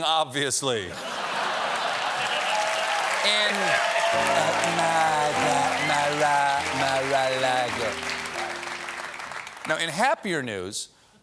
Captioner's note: cheers and applause